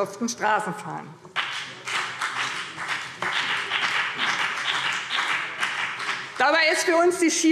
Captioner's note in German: Beifall BÜNDNIS 90/DIE GRÜNEN